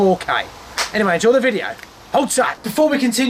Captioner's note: clap